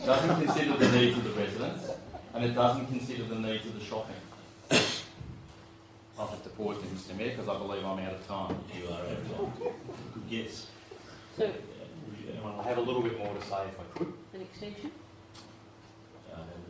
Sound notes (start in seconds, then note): 0.0 laughing; 4.6 cough; 9.2 laughing